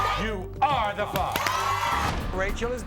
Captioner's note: crowd cheers